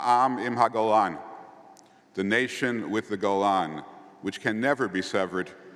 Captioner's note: Hebrew